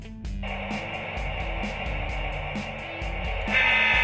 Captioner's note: train roaring